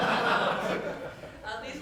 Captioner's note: members laughs loudly